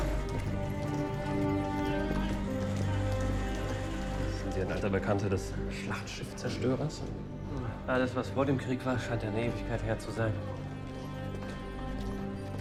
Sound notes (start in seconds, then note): 4.6 speaking in foreign language